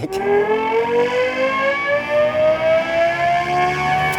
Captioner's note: car revving